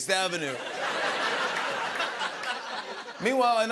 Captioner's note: laughter